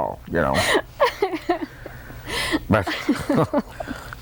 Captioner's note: laughter